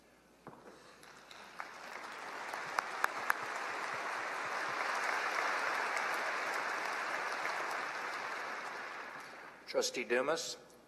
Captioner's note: applause